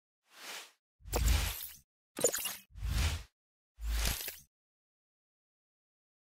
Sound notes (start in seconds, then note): 0.5 air whooshing